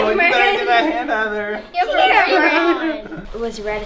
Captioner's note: girls talk excitedly